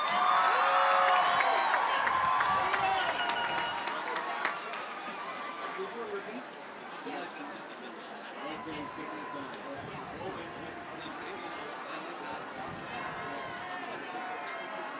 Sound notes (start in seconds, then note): 5.7 cheers and applause